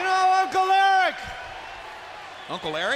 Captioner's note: crowd chatter